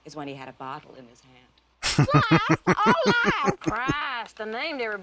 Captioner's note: laughing